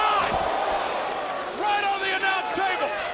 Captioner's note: crowd exclaiming